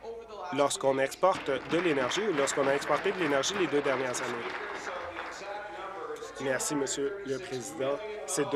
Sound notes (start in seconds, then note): 4.9 applause